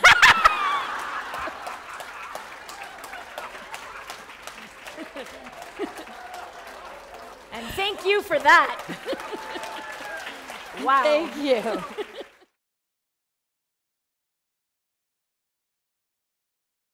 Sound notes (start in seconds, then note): 1.8 laughter; 3.8 applause